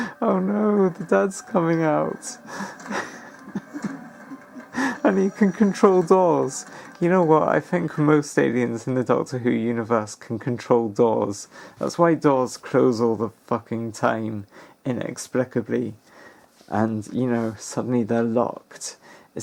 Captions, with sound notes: Oh no! The dad's coming out. *titters like a rat* And he can control doors! You know what, I think most aliens in the Doctor Who universe can control doors. That's why doors close all the fucking time inexplicably, and you know, suddenly they're locked.